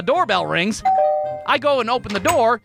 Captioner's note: doorbell rings